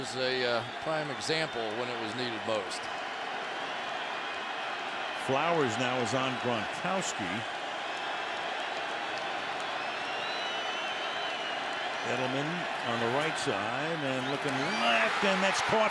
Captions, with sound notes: But that was a prime example, when it was needed most. Flowers now is on Gronkowski. [crowd cheering] Edelman on the right side and looking left.